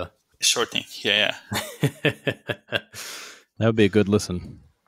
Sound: laughing

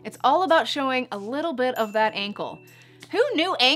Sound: chiming

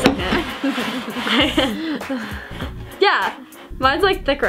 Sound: laughing

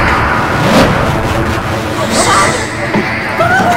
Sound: dramatic music; gasping

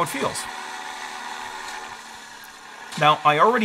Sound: boat motor revving

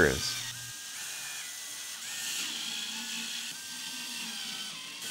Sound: screwdriver whirrs

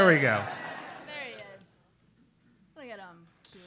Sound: laugh

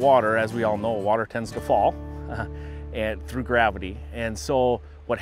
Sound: chuckles

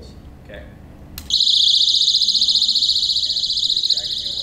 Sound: alarm ringing

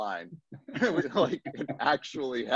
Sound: laughs

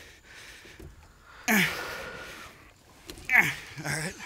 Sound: grunting

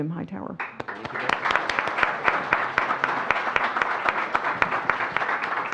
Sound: audience applauds

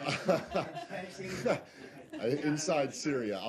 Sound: laughter

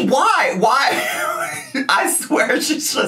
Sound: laughing

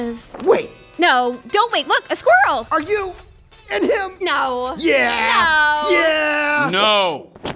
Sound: none

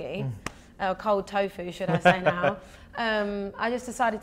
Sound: host laughing

